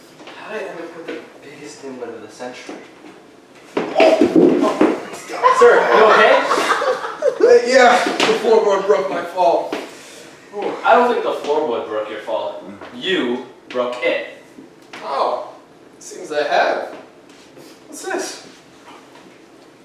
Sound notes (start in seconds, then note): 3.7 PI slipping, floorboard breaking; 5.1 audience laughing